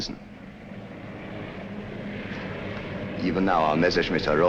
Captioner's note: planes flying